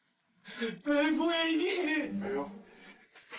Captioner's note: whimpers